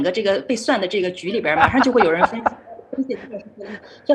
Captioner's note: laughs